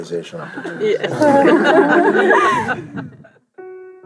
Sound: laughter

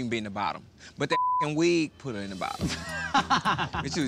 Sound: beep

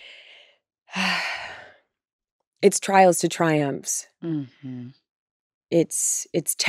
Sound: sighs

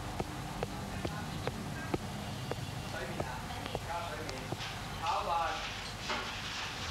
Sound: kitchen personnel chattering in foreign language

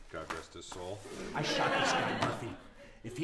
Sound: audience laughter

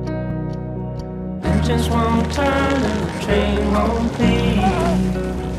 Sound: ropes creaking, a cry, a thump

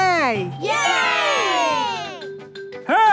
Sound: crowd cheering

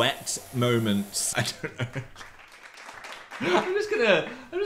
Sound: hands clapping

